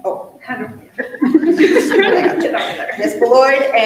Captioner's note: all laughing